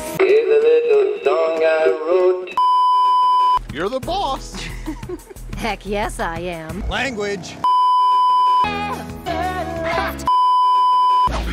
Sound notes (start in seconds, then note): 2.5 beeeeeep; 4.6 Steven giggles; 10.3 beeeeeep